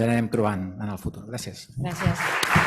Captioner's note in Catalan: Aplaudiments